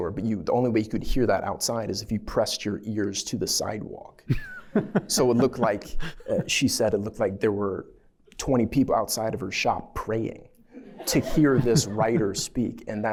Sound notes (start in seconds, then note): 4.2 laughter